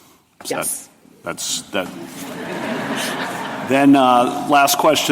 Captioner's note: laughter